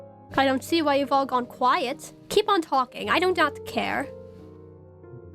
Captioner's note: none